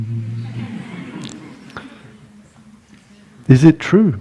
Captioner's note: laughter